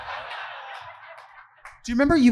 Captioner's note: audience laughing